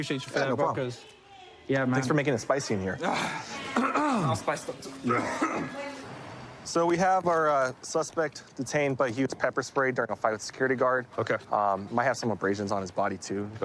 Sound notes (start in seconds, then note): 4.8 coughs; 5.0 clears throat